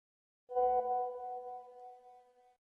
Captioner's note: message alert tone